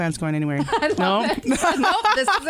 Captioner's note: laughter